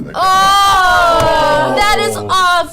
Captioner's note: all groan